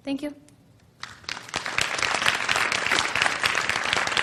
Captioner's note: applause